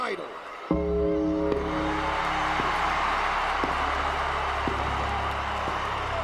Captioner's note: crowd cheering; eerie music